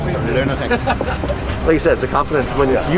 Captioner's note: laughter